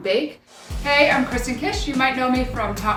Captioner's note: screen whooshing